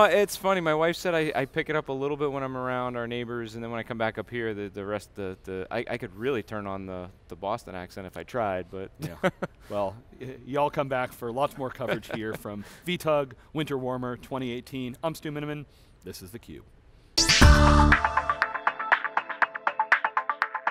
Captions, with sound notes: >> No it's funny, my wife said I pick it up a little bit when I'm around our neighbors, and then when I come back up here, I can really turn on the Boston accent if I tried but (laughs). >> Well, you all come back for lots more coverage here from VTUG Winter Warmer 2018. I'm Stu Miniman, this is theCube. (exciting electronic music)